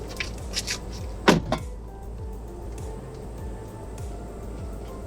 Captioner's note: door closing